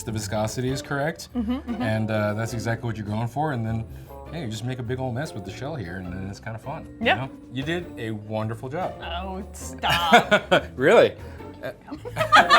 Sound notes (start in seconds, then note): 9.9 chuckles